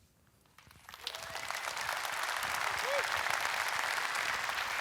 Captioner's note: audience clapping